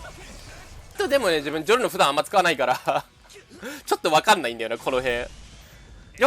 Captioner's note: laughter